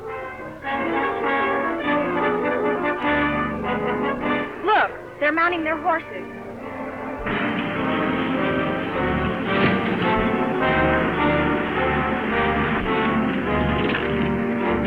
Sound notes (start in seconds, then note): 0.2 frenzied music; 7.5 truck rumbles; 11.3 suspenseful music